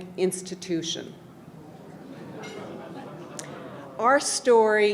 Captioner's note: audience remarks with surprise